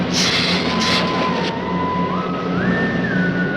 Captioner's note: lizard hissing